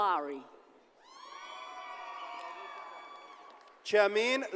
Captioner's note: audience cheers and applauds